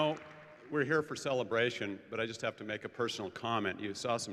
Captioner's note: applause